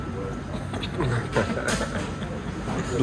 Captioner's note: laughing cheesily